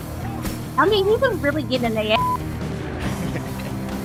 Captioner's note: beep